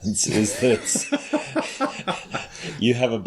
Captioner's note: laughter